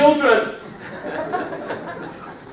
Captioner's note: laughs